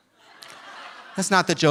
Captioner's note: audience laughing